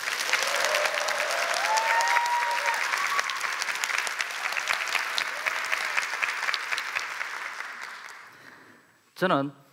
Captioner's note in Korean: 박수와 환호